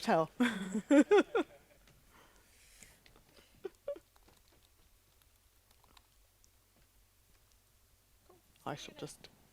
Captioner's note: laughs